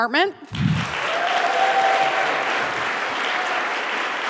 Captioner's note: audience applauding